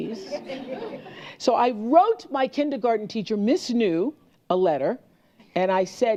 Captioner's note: laughter